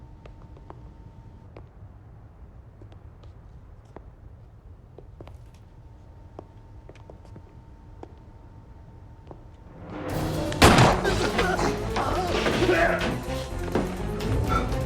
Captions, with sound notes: (gun firing) (groaning) - Give it here!